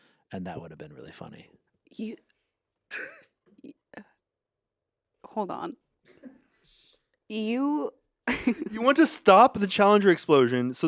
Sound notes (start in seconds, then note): 3.1 Anthony laughs; 7.8 laughs